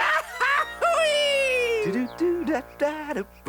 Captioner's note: male humming